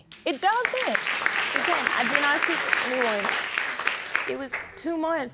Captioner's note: audience clapping